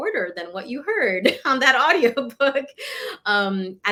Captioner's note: laughter